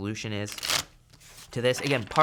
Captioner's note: shuffling sound